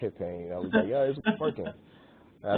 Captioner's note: chuckles